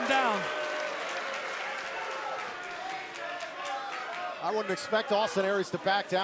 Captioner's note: crowd chatter